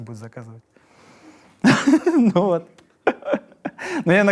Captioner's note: laughs